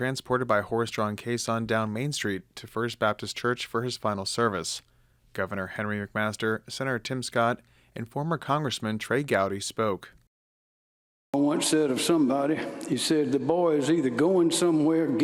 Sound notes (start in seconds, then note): 12.1 laughter